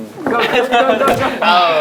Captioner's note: pow